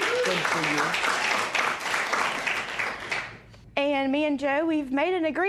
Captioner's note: cheers and applause